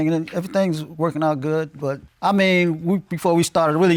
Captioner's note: none